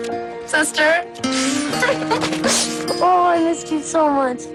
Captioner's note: both chuckling